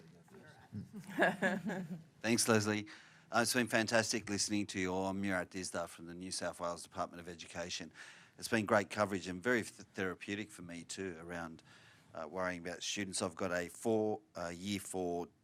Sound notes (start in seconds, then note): 0.7 laughter